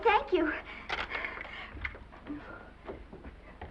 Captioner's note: Esther gasping; footsteps receding